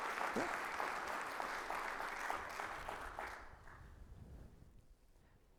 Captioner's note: audience applauds